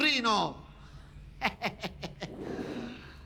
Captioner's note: Furia laughing maliciously